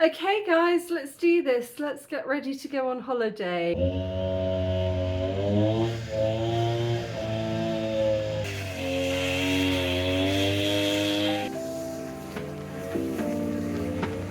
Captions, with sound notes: Okay guys, let's do this. Let's get ready to go on holiday. [lawn strimmer] [chilled music]